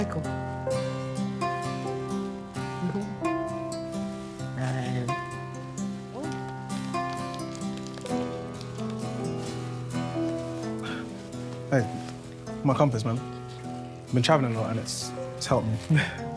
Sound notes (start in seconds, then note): 0.2 upbeat music; 7.3 paper crinkling